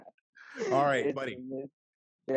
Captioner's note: laughs